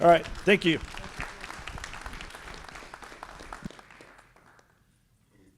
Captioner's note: applause